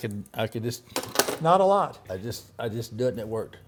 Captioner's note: wood clanks